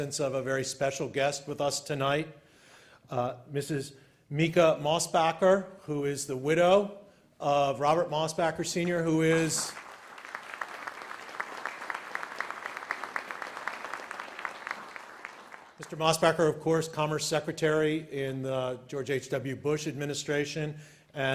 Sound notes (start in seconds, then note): 8.8 applause